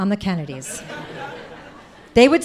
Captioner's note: audience laughing